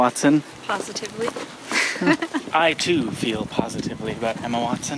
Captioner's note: laughs